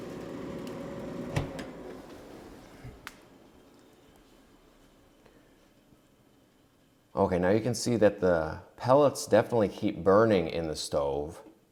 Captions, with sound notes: (machine ceases whirring) Okay, now you can see that the pellets definitely keep burning in the stove.